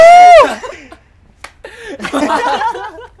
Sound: slap

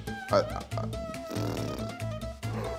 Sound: blowing cheeks; gasps

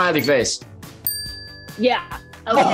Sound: timer dings

